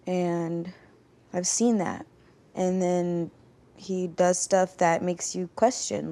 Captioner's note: none